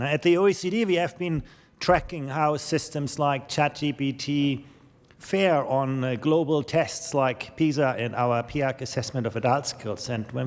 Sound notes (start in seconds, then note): none